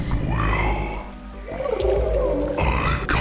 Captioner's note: confused gurgle